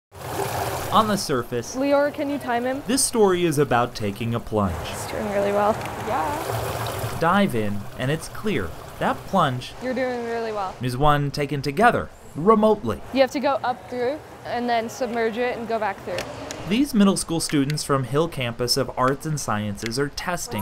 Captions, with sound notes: (Water gurgles down drain) On the surface "Can you time him?" This story is about taking a plunge "He’s doing really well." "Yeeeeeah!" Dive in, and it's clear, that plunge… "You’re doing really well." is one taken together… remotely. "You have to go up through, and then submerge it and go back through." (Remote control clicks) These middle school students from Hill Campus of arts and sciences are testing